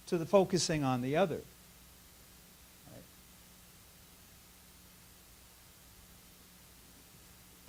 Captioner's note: silence